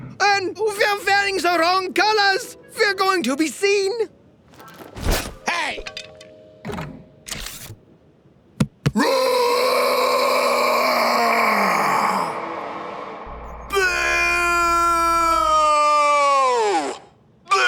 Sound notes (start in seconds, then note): 8.6 beats chest; 9.0 roars